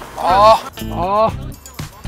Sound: sigh LOL

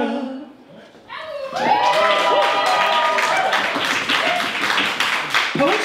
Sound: applause

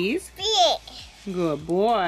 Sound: speaking gibberish

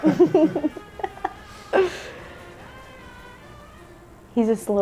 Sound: laughing

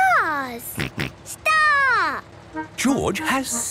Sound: snort

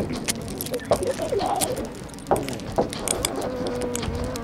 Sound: key rattling

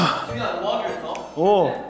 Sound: umph

